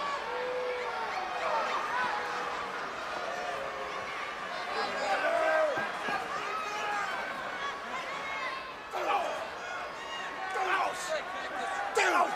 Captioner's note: crowd cheering